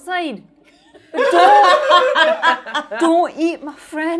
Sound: all laughing

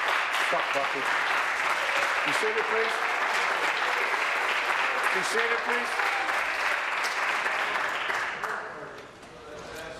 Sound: applause

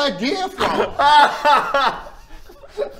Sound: doomed laughter

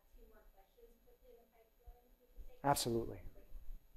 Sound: faintly speaking

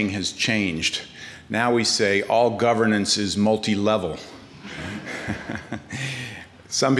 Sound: chuckles

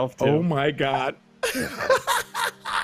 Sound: laughs

